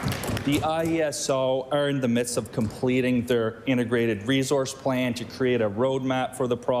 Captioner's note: applause